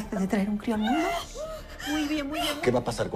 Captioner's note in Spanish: Quejidos